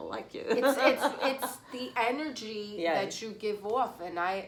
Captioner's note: laughs